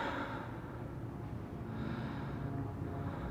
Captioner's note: man breathing